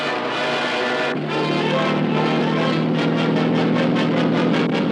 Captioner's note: motor roaring